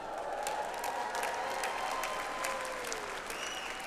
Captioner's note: audience applauds